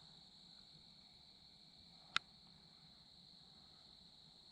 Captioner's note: voice in the distance